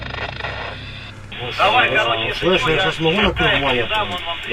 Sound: shooting

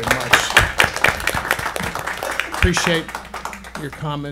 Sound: applause

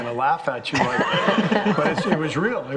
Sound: all laughing

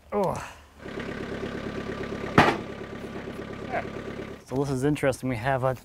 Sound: skid steer engine humming

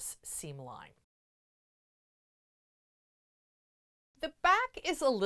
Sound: no Sound Present

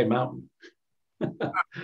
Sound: laughs

